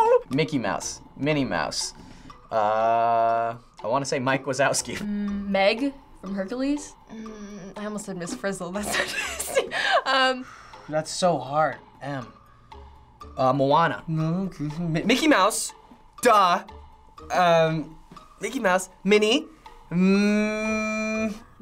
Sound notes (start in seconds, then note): 10.4 exhaling